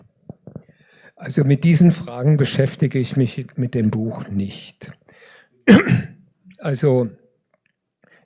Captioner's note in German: räuspern